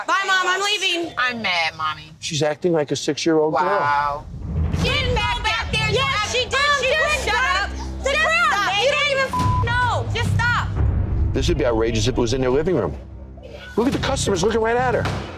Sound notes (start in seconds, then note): 7.0 arguing